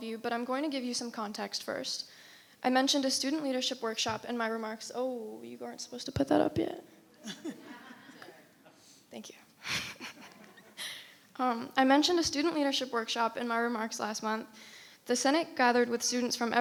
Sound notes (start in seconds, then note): 7.2 crowd giggling; 9.6 chuckles